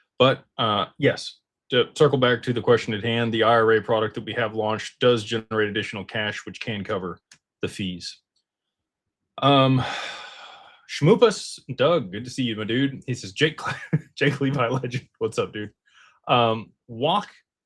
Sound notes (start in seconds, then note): 9.6 sighs and gasps